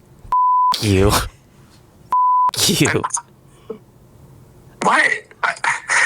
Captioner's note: beep